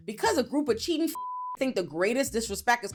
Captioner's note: beep